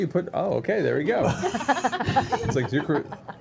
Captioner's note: laughter